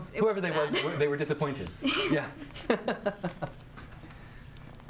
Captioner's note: chuckles